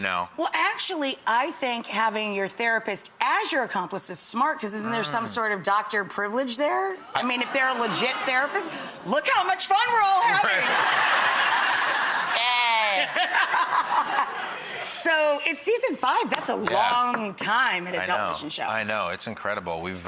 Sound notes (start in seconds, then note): 9.1 audience chatter; 10.2 Matt and audience laughs; 13.3 Rachel and audience laughs